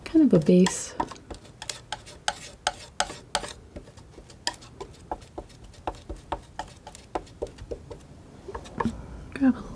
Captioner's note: tapping